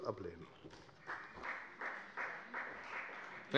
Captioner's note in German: Beifall bei der FDP